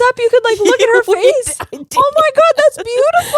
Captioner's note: laughing